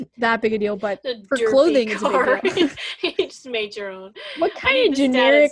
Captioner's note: laughs